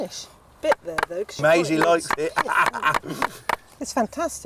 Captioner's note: laughing